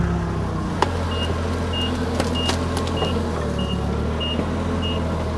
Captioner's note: fork truck beeping